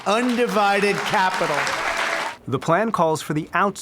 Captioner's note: applause